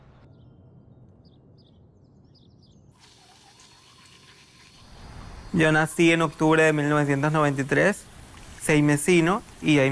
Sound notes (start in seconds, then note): 3.4 water sloshing; 5.9 speaking in foreign language